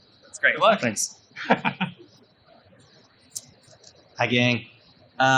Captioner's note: laughs